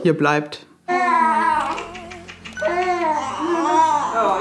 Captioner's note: crying